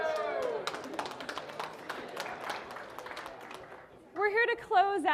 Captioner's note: audience clapping